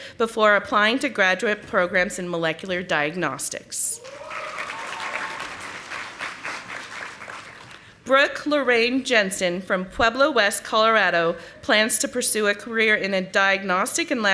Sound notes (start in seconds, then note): 4.0 audience applauding